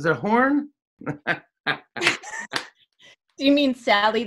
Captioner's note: laughs